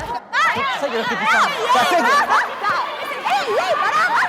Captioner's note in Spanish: Gritos